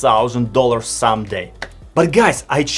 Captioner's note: clap sound